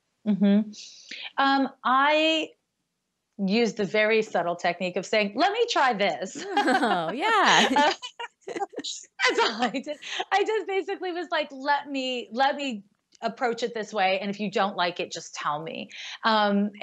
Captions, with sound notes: - I used a very subtle technique of saying, "Let me try this." (laughing) - Oh, yeah. - That's all I did. I just basically was like, "Let me approach it this way, "and if you don't like it just tell me."